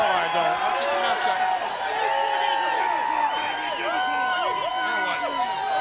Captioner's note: audience cheers